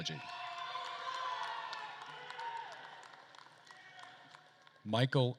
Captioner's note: attendees cheering and applauding